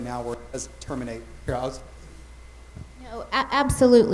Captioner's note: mic cutting out